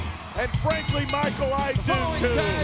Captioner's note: bell rings